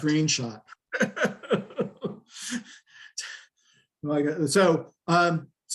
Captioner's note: laughing